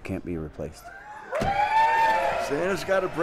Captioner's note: cheering